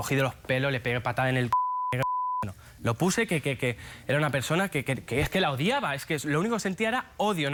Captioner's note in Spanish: Bip